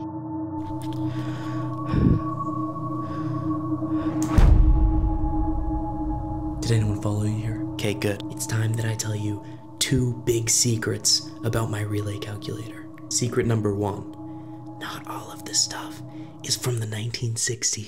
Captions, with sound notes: (Horror music) (BOOM) Did anyone follow you here? Okay, good. It's time that I tell you 2 big secrets about my relay calculator. Secret number one, not all of this stuff is from the 1960s.